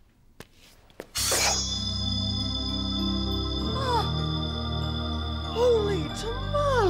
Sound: metal swishing; awed music

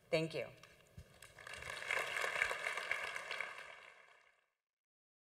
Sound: congregation applauding

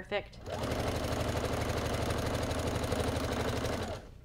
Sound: machine whirs

